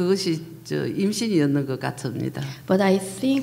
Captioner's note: speaking foreign language